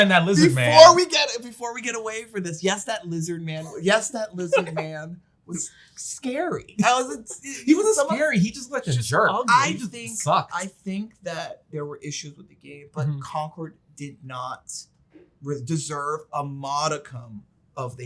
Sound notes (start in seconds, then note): 4.4 laughs